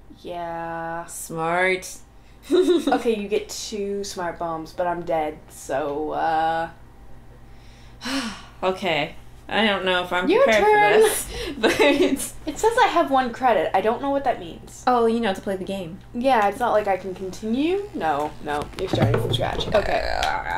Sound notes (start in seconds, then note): 2.4 laughter; 8.0 sigh